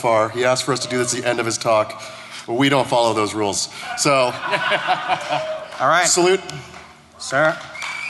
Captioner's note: cheers and applause